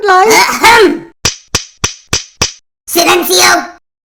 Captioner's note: tap, tap, tap, tap, tap